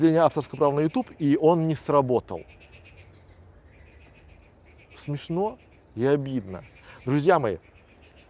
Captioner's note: frogs croak in the background - loudly